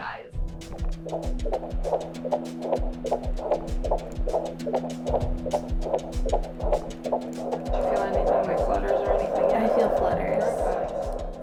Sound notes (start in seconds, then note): 0.2 upbeat music; 2.5 heart beating